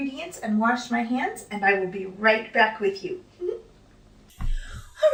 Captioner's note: giggles